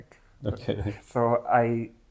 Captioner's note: laughs